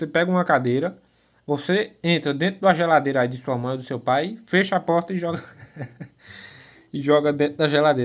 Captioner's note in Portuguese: risadas